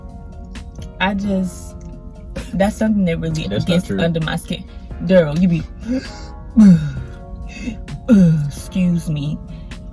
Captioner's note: gasp